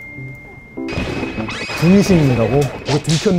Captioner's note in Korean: 등신 / 천둥 번개 효과음